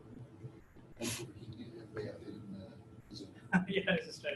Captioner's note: audience member speaks from a distance; laughs